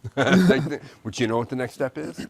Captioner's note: laughing